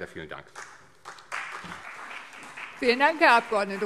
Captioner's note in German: Beifall CDU und BÜNDNIS 90/DIE GRÜNEN